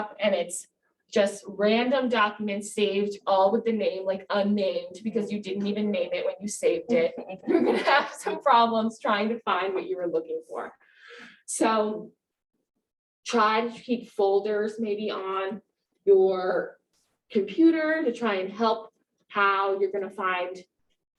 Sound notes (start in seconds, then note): 6.9 laughs